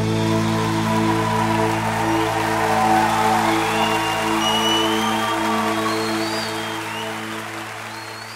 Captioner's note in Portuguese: Palmas